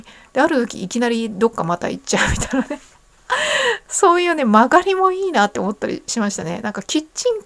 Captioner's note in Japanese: 笑い